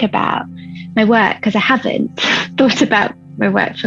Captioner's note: chuckles